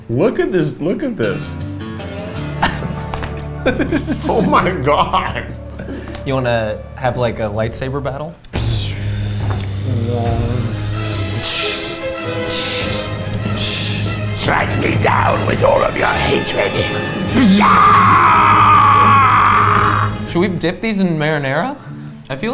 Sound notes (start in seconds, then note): 3.6 laughs; 8.6 makes light saber noise; 13.4 dramatic music; 19.6 laughs